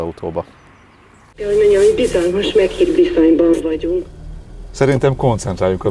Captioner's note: female voice on the radio